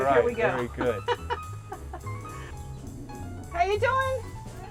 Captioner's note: laughs